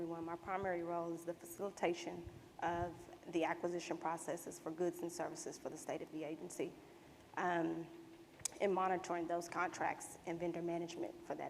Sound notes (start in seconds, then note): none